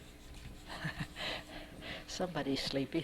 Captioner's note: chuckles